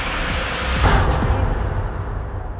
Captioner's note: poof!